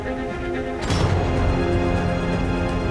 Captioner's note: metallic clank